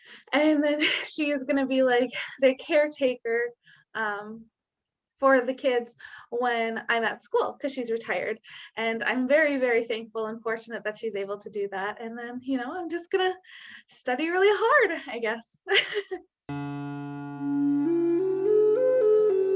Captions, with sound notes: And then she is gonna be like the caretaker for the kids when I'm at school. 'Cause she's retired and I'm very very thankful and fortunate that she's able to do that. And then, I'm just gonna study really hard, I guess. (giggling) (gentle music)